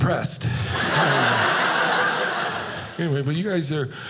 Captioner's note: audience laughing